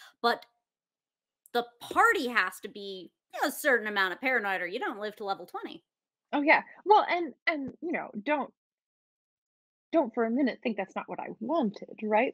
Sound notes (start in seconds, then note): none